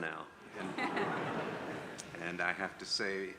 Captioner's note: audience laughs